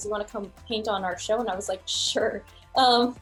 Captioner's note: laughs